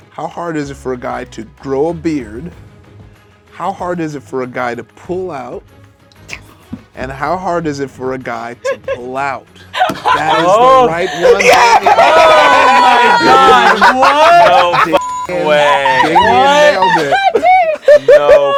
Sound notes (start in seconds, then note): 9.7 everyone laughs; 14.9 beep; 17.2 everyone laughs